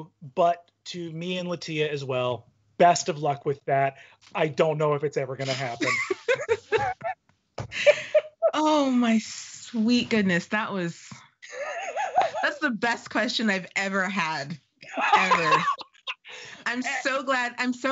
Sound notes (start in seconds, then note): 6.3 laughing; 14.8 laughing